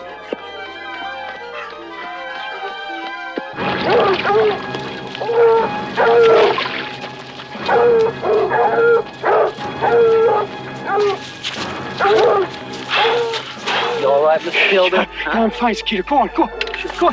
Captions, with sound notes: (dogs barking) (dramatic music) (Philby gasping) - You all right, Mr. Philby? - I'm fine, Skeeter, Go on, go on.